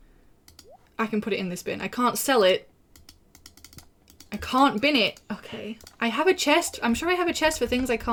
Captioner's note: furious clicking